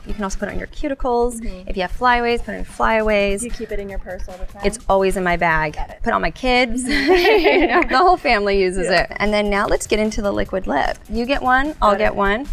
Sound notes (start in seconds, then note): 6.8 both laugh